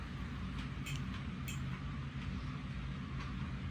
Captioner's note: untensils clangking